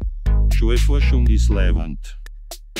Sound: in Viennese

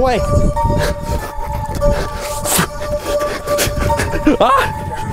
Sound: man gasping

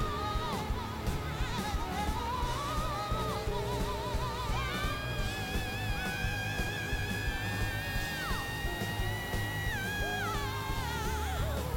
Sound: both vocalizing

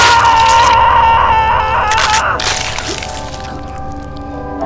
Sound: screaming; flesh tearing

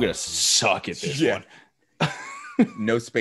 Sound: laugh

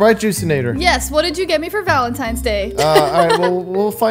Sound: laughs

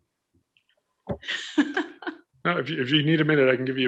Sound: laughing

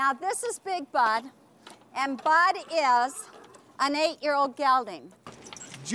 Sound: horse neighs

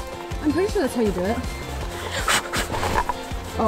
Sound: blows

